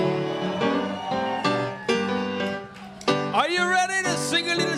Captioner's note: audience cheers